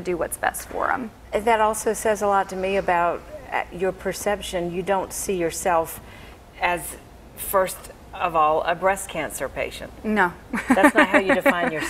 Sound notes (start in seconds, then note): 10.6 laughs